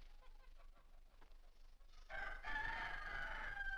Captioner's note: rooster Crows